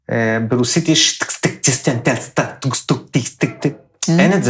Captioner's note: apparently russian-sounding noises